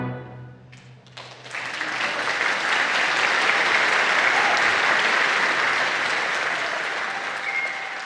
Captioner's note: applause